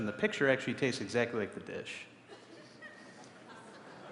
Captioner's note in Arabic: ضحك